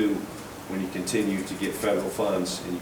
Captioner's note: none